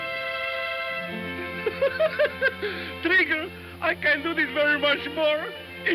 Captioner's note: laughs